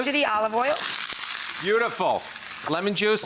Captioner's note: pan sizzling